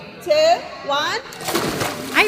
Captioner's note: splash!